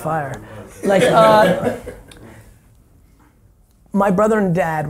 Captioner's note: laughing